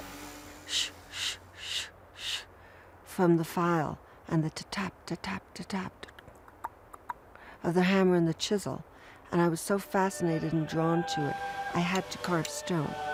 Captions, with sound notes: shh shh shh shh from the file and the ta-tap ta-tap ta-tap (clucks) of the hammer and the chisel. And I was so fascinated and drawn to it, I had to carve stone.